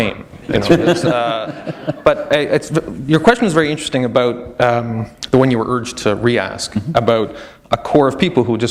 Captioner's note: chuckle